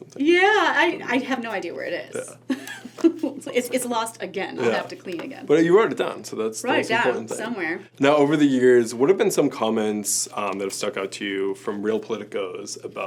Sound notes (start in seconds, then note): 2.6 laughs